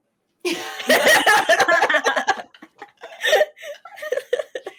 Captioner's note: women laughing